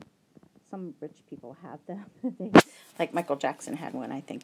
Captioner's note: laughs